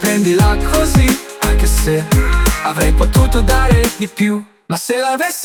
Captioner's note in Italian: mmm